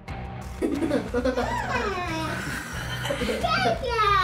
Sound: laughing

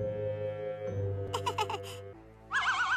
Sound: nervous laughter

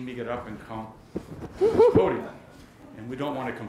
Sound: laughter

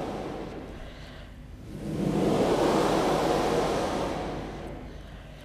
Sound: shri mataji blows into the microphone

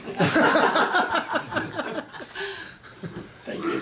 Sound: all laughing

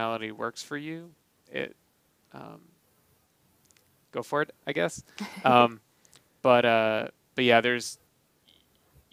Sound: laughing

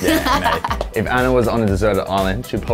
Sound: laughing

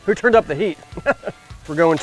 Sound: weird laugh

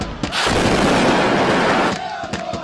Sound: celebratory singing in background; sound of explosions; celebratory cheering and singing

